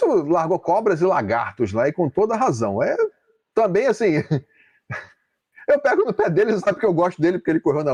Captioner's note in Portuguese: risadas